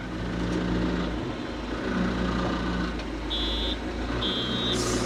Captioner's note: machinery rumbles